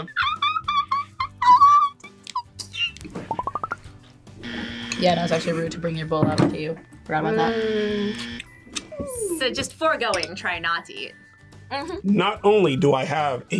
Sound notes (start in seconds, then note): 0.0 squeals; 4.4 buzzer; 7.3 buzzer